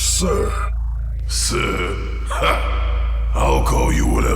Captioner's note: chuckles